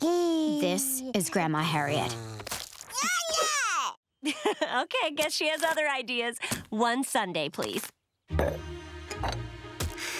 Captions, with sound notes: This is Grandma Harriet. [babbling] Haha, okay, I guess she has other ideas. One sundae, please.